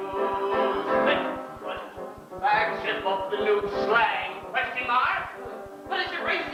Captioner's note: click